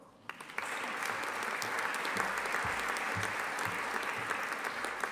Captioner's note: audience applauding